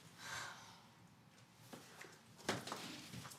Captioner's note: Cassie sighs